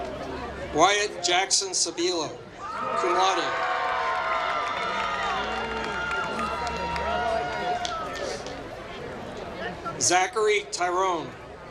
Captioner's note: applause